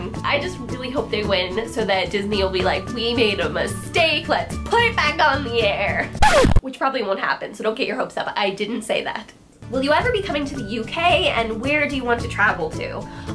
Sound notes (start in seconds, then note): 6.1 record scratch